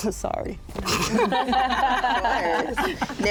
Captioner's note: laughter